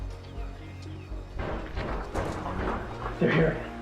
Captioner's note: banging on the door